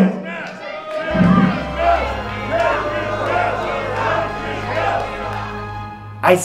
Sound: audience shouting; audience shouting and chanting

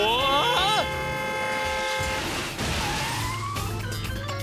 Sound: horn honking; horns honking; tires screech

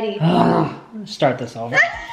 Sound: sighs

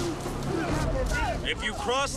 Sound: speaking Tahitian

